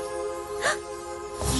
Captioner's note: gasp